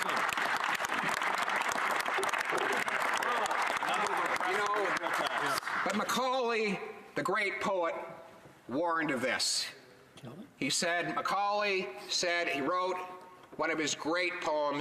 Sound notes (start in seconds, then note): 7.3 some Applause